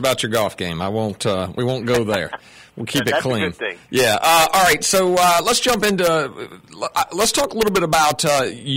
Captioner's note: laughter